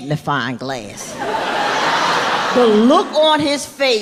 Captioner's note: audience laughing